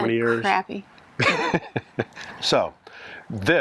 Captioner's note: laughs